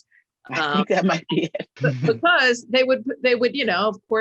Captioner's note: laughs